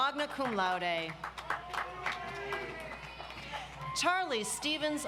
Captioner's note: audience applauds